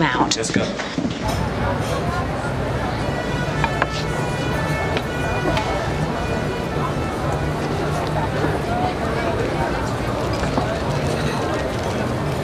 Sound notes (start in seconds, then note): 1.2 crowd chattering; 2.2 siren wailing; 9.0 crowd chattering